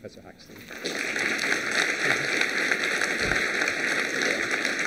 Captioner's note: applause